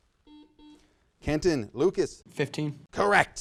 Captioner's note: buzzer sounds